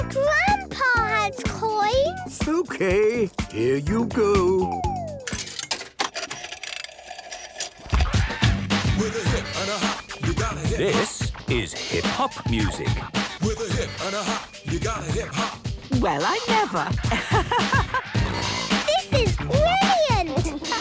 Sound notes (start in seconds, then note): 5.1 clicks, whirring; 8.1 hip hop music plays